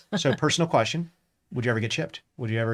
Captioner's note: laughs